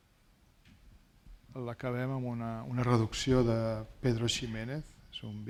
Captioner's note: speaking spanish